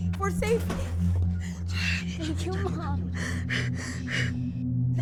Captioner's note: sobbing